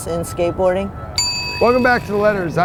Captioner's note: bell dings